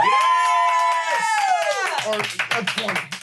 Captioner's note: everyone cheers